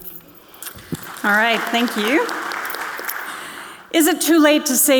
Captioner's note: audience clapping